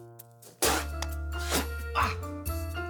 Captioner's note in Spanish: Ruido al escupir